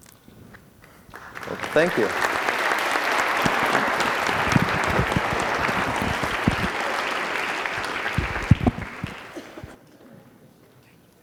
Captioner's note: applause